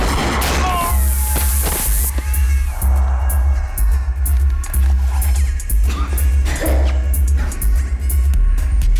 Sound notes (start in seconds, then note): 5.8 coughs